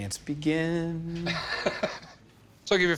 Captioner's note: laughs